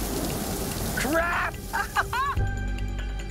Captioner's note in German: Ina lacht